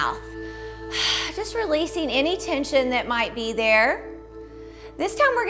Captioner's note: exhales